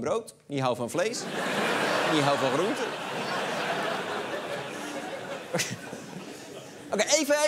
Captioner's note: laughter